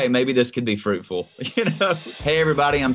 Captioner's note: laughing